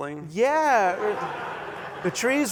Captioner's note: laughter